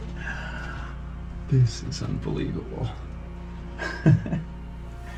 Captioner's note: laughs